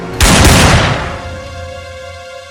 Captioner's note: gunshots